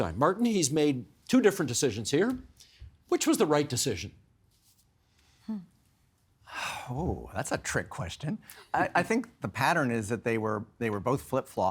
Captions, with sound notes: Martin, he's made two different decisions here. Which was the right decision? (Sighing) Ooh, that's a trick question. I think the pattern is that they were both flip-flops,